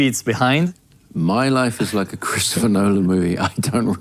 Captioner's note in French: des rires